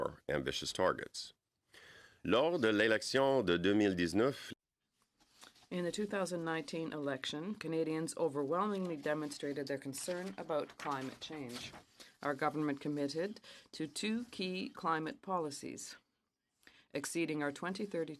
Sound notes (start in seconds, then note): 8.2 speaking French